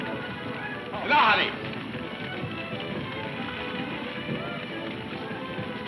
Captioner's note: man speaks in foreign language